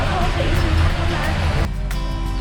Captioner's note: murmuring; upbeat instrumental music